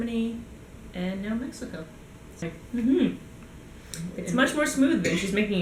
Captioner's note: slight cough